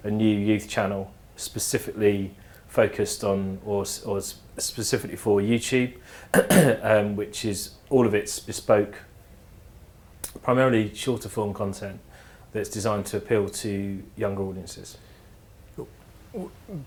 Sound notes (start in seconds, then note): 6.3 cough